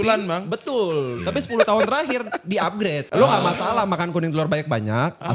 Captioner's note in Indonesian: tertawa